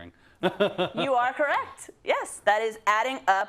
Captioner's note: laugh